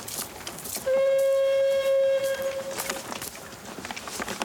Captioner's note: air horn blowing